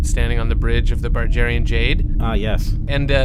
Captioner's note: Bargie ambience